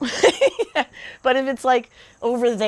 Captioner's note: laughing